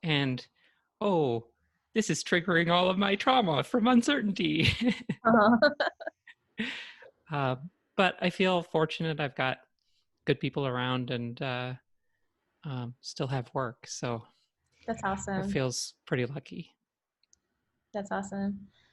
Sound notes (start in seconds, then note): 5.0 laughs